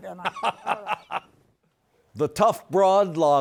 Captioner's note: laughs